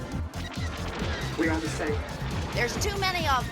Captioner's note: robot voice